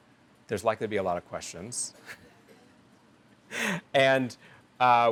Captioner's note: chuckles